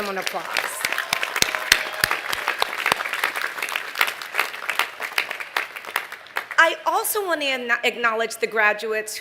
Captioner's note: applause